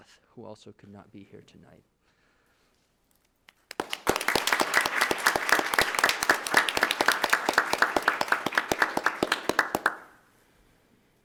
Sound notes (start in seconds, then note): 3.7 attendees applauding